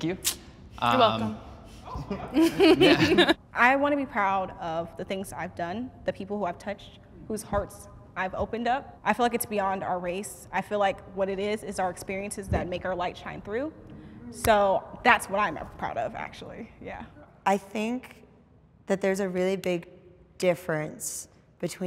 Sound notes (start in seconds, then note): 1.9 laughs